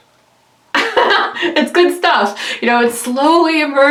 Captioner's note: laughs